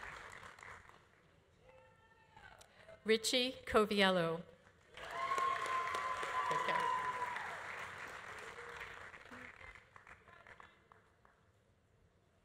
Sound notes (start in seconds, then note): 4.9 audience applauding; 5.0 audience cheering